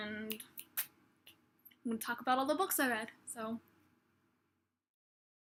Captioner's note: snaps fingers